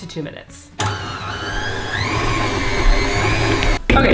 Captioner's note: mixer whirls faster and faster